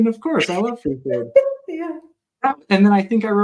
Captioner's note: laugh